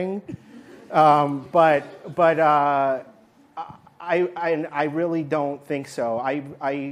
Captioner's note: laughter